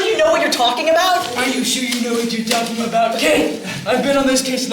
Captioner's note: mocking